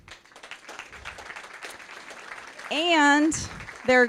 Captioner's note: applause